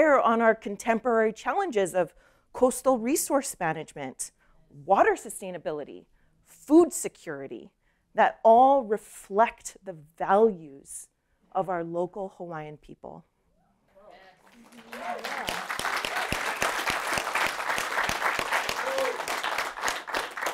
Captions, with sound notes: on our contemporary challenges of coastal resource management, water sustainability, food security that all reflect the values of our local Hawaiian people. [APPLAUSE]